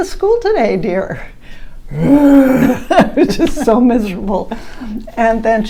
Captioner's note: grumbles